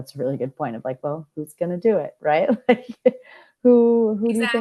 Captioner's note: chuckles